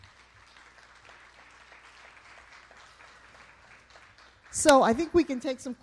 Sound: applause

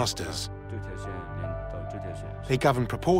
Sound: speaking Tibetan

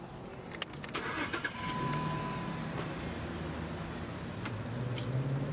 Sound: car engine starts

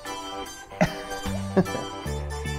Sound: laughs

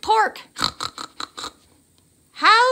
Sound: snorting laughter

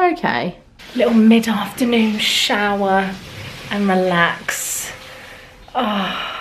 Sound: exhales deeply

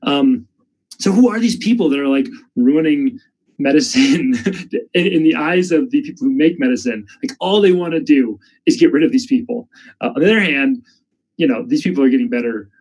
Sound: chuckles

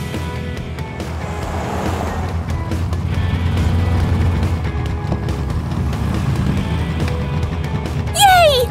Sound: racing sounds

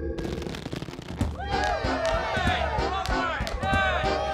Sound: cheers and laughter

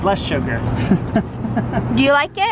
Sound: chuckles

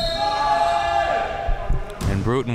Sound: players yelling

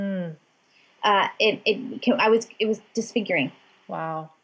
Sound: stammering

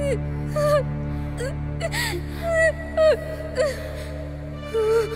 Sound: sobs in pain

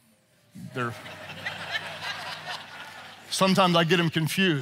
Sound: audience laughs

